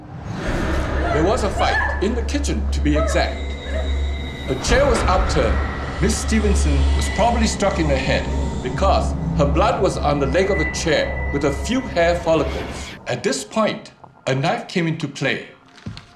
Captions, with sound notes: (dramatic music) (Paige yelping) There was a fight in the kitchen to be exact. The chair was upturned. Miss Stevenson was probably struck in the head because her blood was on the leg of the chair with a few hair follicles. At this point, a knife came into play.